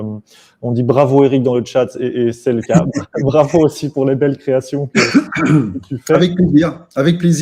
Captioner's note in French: rires